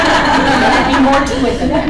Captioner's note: laughing